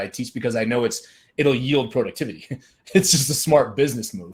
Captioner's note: chuckles